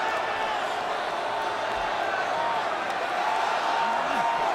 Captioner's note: crowd clamoring